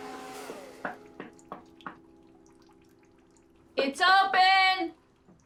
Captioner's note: door knocking